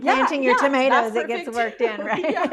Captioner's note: laughs